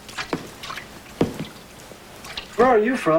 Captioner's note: splashing of water